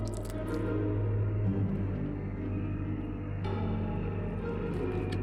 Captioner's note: flesh ripping; somber music